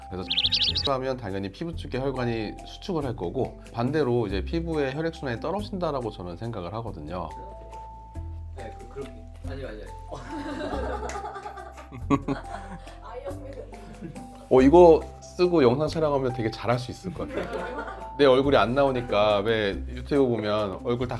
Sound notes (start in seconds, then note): 10.2 laughs; 12.1 giggles